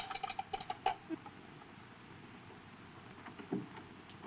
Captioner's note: telephone clanking